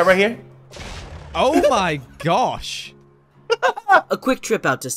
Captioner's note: laughter